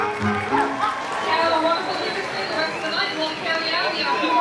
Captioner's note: speaking in Polish